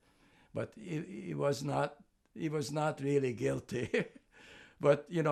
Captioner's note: laughing